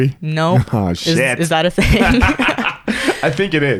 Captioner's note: both laugh